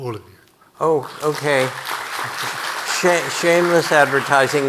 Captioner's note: audience applauding